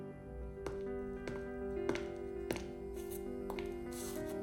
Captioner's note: footsteps padding